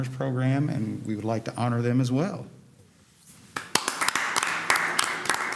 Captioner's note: applause